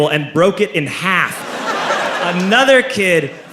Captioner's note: crowd laughs